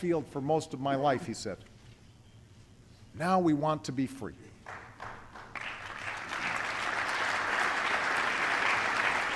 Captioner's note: applause